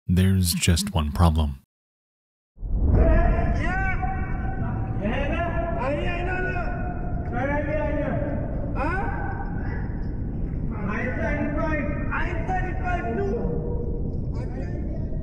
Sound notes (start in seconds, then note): 5.0 diver and shouting in foreign language; 10.8 divers shouting in foreign language